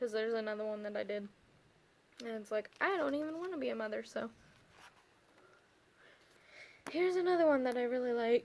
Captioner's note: sigh